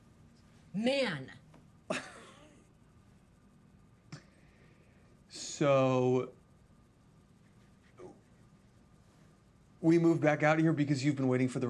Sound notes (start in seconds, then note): 2.1 Mitch laughs